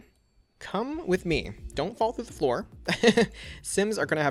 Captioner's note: laughs